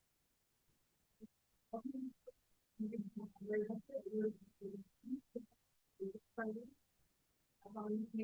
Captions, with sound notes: - (speaking faintly) I call this meeting to order.